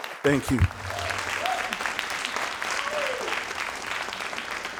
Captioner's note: crowd applauding